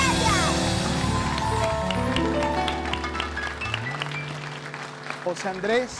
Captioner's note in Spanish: Ovación